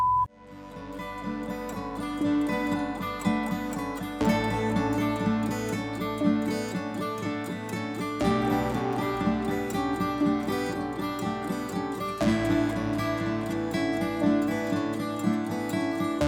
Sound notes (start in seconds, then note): none